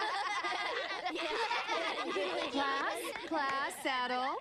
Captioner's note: laughter